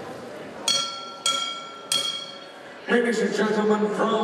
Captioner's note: bell ringing